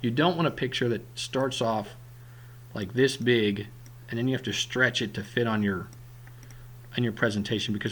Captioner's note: clicking